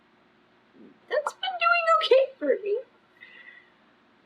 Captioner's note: laughs